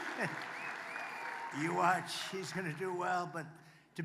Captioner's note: applause